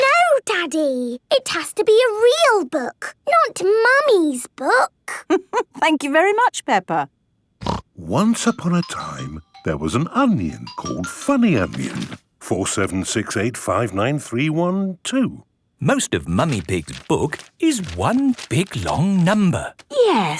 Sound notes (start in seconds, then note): 5.3 laughing; 7.6 snorting